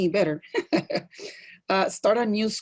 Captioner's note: laugh